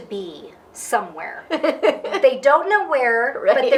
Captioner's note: laughing